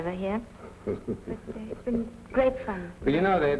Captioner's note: laughing